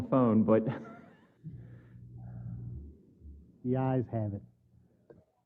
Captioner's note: laugh